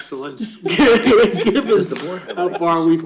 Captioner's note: laughter